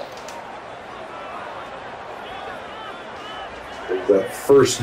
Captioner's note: crowd cheering